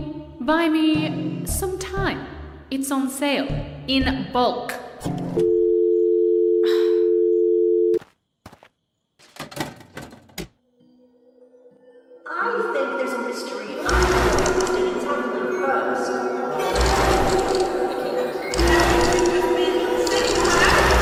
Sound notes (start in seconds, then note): 5.4 dial tone; 6.6 mic sighs; 12.2 echoey suitcase voice; 16.2 echoey fan voice; 18.4 echoey test tube voice